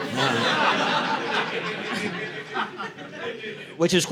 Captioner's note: audience laughing